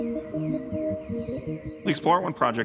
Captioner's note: birds chirping; gentle music